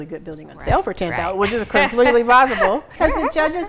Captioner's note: she laughs